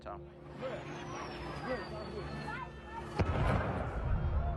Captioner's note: people yelling